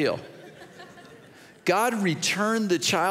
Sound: audience chuckles

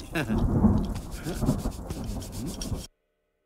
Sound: rain Sound

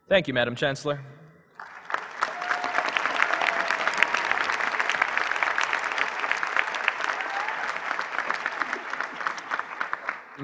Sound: applause

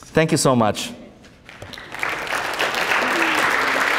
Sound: applause

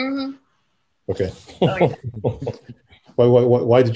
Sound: laughs

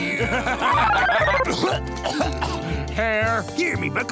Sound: laughing; coughing

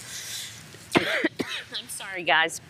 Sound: coughs

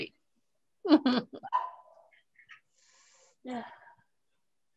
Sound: laughs

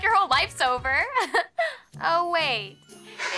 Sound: chuckles

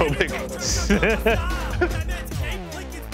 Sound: laughs

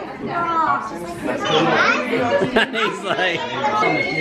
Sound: kids talking

